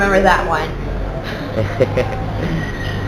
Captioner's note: laughter 00:02:54